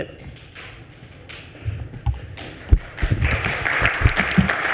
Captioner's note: attendees clapping